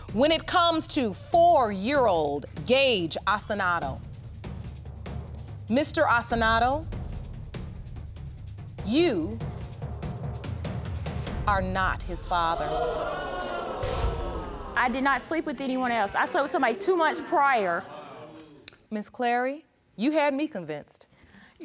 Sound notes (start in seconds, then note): 12.2 audience exclaiming